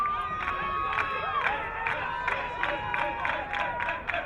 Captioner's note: crowd clapping